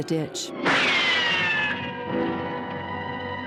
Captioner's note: gunshot